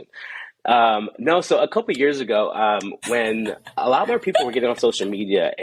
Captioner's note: background laughter